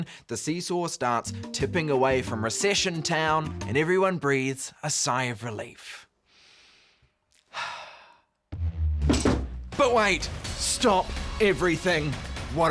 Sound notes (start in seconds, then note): 7.4 sighs